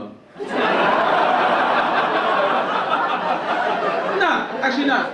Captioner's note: audience laugh